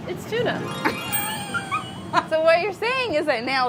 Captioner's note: laughing